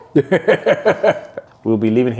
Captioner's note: laughs